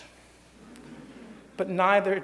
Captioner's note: light laughter